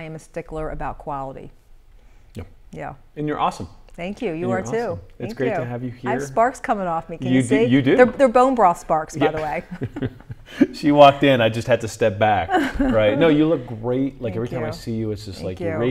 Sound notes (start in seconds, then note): 9.2 laughter